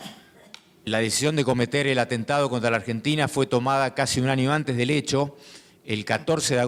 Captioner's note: speaking in foreign language